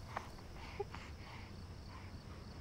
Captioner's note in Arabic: هديل الطفل